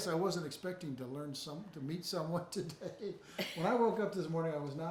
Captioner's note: chuckles